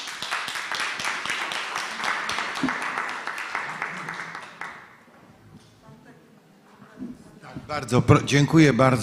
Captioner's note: applause